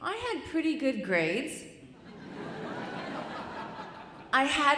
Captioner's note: audience chuckling